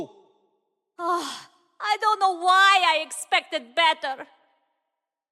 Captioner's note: sigh